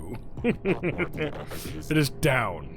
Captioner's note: Skull laughs